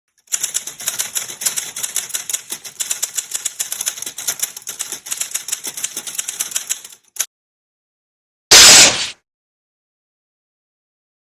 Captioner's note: typing